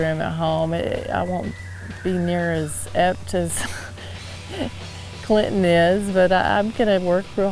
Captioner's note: chuckles